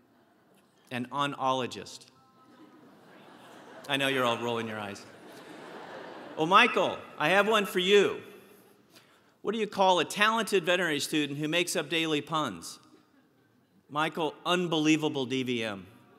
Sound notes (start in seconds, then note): 5.1 laugh